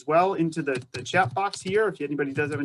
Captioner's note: keyboard clicks